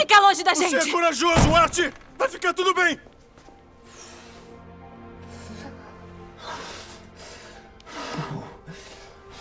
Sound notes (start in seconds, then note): 5.0 breathing deeply